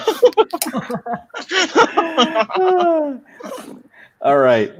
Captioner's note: laughing